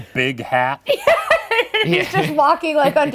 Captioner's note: laughing